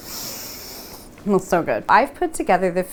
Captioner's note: deeply inhaling